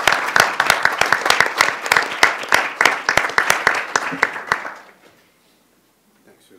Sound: applause

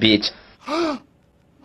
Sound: gasp

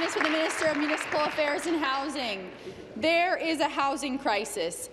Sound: applause

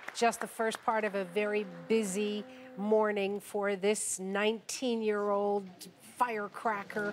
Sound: applause

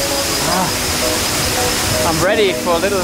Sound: waterfall

